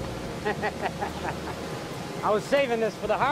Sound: laughing

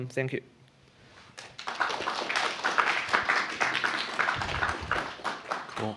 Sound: applause

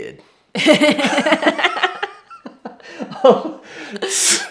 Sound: both laugh

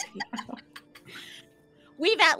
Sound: laughs

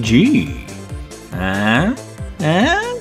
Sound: coughing

